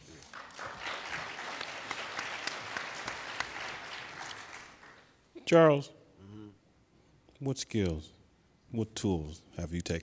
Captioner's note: applauding